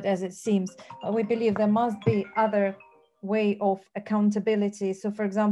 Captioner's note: phone ringing